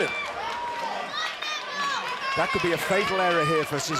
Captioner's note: crowd chatter